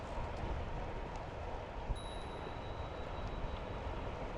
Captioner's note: ding! #4